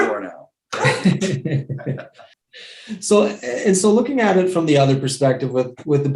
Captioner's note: laughs